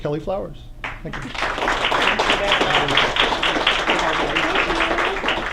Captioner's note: applause